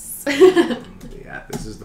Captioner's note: laughter